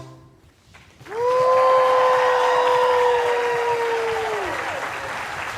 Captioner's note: audience applauding